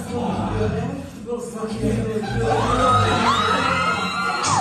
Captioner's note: cheering